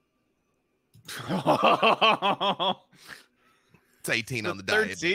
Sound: laughs

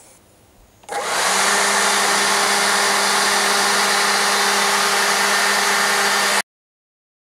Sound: sound of leaf blower

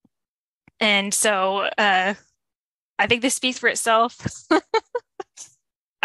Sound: chuckles

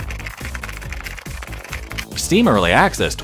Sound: fake typing noises

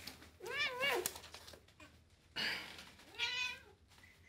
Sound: Jazzy meows loudly

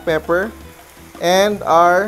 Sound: sizzling sound

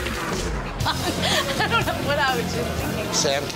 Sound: laughs

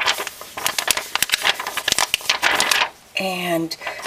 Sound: plastic crinkling

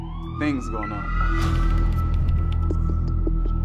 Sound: police car noise

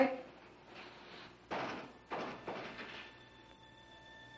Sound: window banging

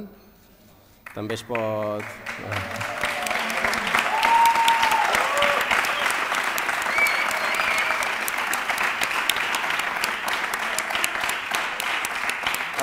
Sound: applause

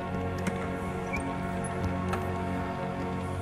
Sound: door opening

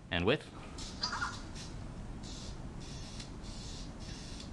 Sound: squeaky sounds

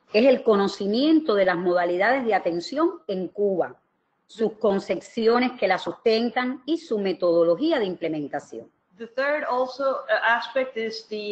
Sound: speaking another language

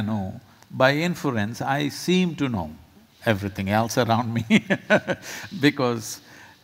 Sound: laughs

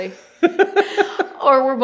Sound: laughter

